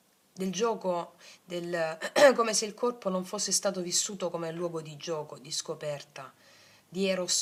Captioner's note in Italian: schiarire la voce